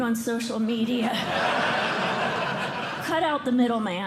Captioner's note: laughter